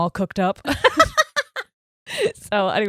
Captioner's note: laughing loudly